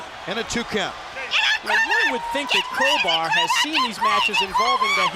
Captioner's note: crowd cheering